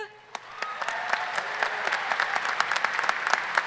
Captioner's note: audience cheering